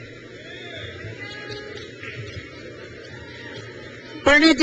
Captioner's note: crowd cheers